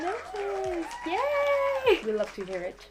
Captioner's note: clapping